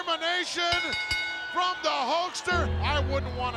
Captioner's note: bell dinging